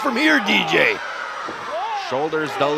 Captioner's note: crowd shouts